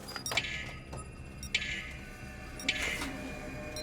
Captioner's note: motion scanner beeps